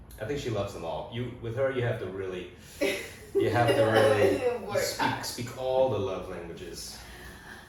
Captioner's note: Risas